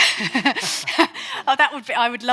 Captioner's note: instructor laughing